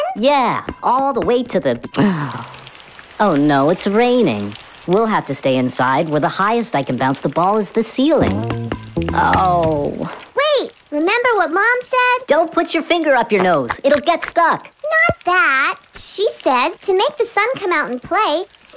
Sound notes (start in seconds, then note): 2.0 gasp; 2.1 rain